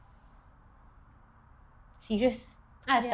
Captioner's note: awkward silence